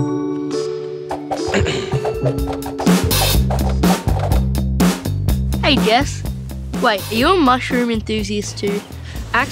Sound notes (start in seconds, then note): 1.5 clears throat; 3.1 upbeat music